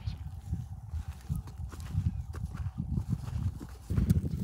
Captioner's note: horse